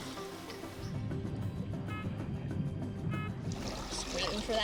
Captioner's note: beeping